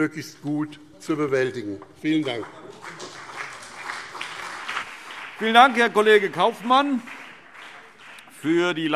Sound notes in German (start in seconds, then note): 2.1 Beifall BÜNDNIS 90/DIE GRÜNEN und CDU